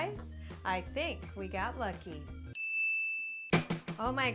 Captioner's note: ding